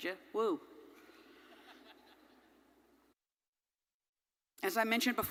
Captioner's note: audience laughing